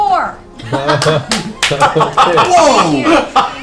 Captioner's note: laughter